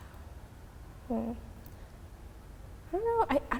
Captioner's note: sighing